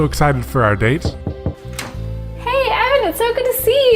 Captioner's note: knocks on door